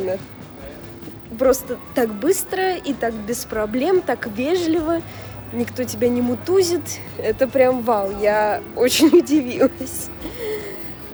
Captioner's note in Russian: смех